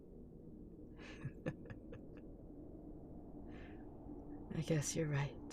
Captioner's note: laugh